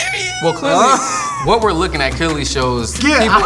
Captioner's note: laughs